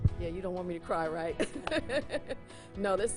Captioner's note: laughs